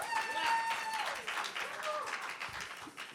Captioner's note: applause